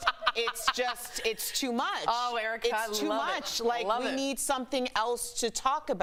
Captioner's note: laughter